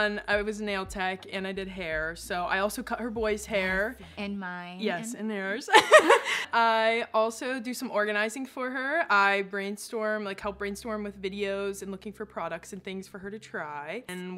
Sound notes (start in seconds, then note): 5.7 both laughing